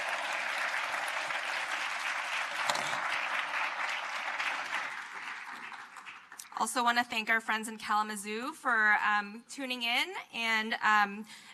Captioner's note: applause